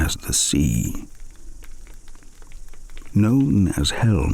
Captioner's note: fire crackling and night insects buzzing